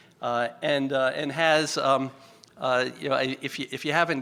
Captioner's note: stutters